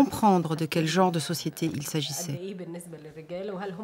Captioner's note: Arabic spoken audio